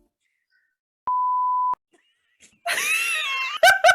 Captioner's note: screen beeping; both laughing